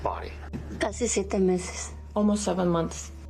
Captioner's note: mom speaks native language